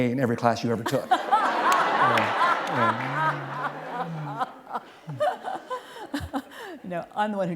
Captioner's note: laughter